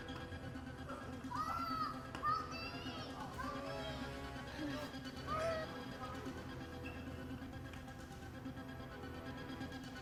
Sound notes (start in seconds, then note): 5.3 child whimpers; 6.9 tense rapid music